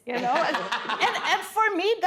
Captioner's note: laughing